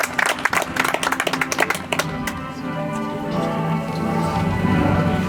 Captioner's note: audience applauds